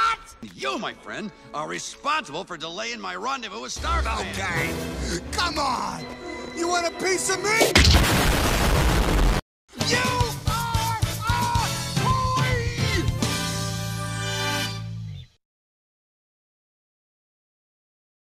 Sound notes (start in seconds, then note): 7.8 woosh